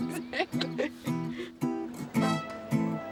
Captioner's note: they laugh